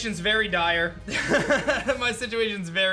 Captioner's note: laughs